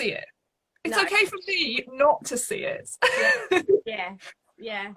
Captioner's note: laughs